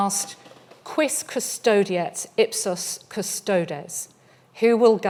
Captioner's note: speaking in foreign language